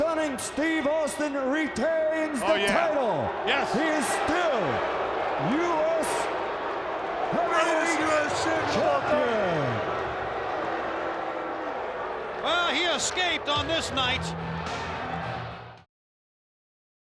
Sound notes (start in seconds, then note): 10.3 audience boos